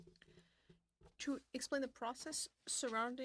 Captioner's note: speaking French